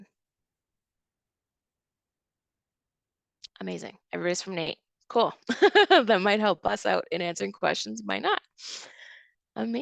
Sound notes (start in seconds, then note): 5.5 chuckles